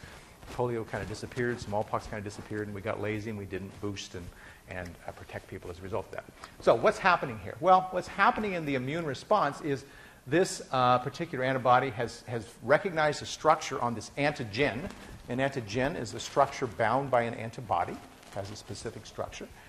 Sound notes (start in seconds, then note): none